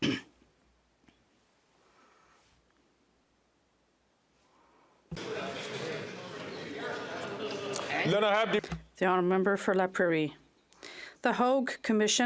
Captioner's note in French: applaudissements